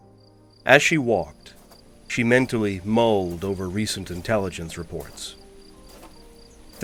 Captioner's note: sounds of crickets, breeze rustling leaves, footsteps